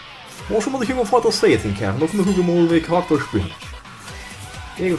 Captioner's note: comedic luxembourgish accent